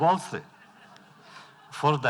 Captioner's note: laughter